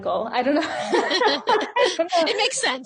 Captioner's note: laughs